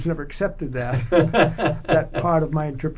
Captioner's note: laughs